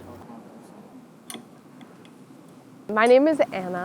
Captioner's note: tool clinking